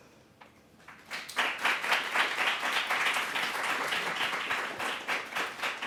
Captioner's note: applause